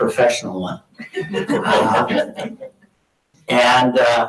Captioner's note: audience laughing